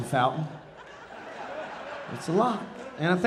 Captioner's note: audience laughing